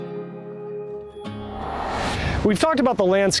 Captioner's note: soft music; air whooshing